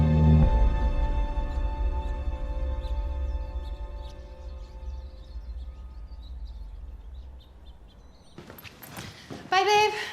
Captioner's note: birds chirping